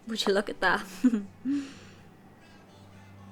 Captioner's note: forced laughter